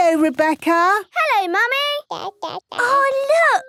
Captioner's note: babbling